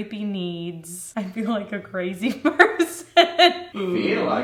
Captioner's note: laughs